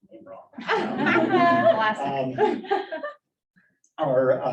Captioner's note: audience laughing